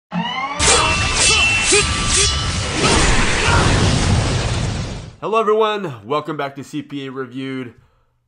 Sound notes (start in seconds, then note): 0.7 swords clang; 2.8 explosions